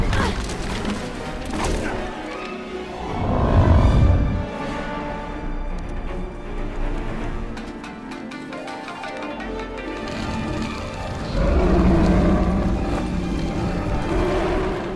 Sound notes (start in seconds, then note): 7.3 shamisen music; 10.5 growling